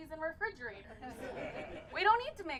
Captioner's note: crowd laughs